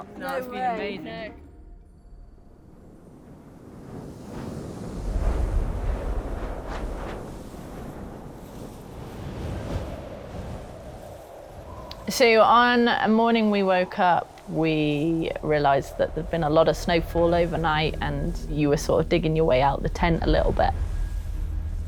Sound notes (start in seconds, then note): 3.5 wind rustling